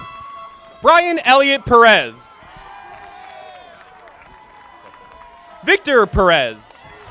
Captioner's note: audience applauding